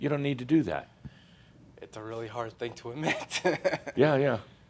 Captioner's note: he chuckles again